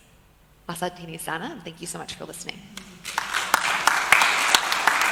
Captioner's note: appkause